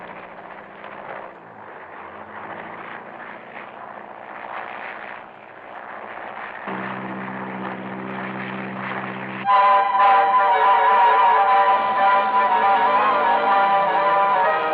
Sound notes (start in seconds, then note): 6.7 helicopter whirring; 9.5 dramatic music